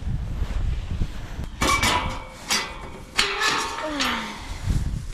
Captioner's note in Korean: 한참을 낑낑댐